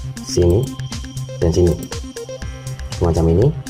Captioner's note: click; click